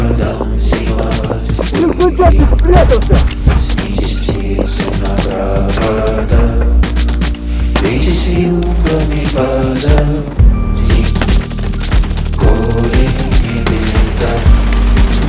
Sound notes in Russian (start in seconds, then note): 5.3 стук в дверь; 8.4 звук выбитой двери; 11.2 выстрелы, звуки перестрелки